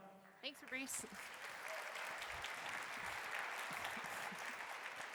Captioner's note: audience applauding